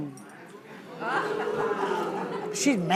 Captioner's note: audience laughs